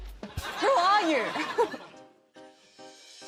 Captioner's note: laughter